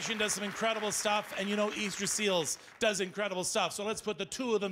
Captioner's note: cheers and Applause